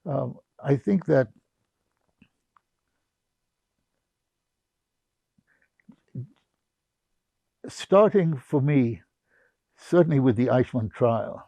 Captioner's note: pauses 6 seconds